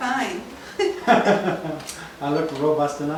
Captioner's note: laughing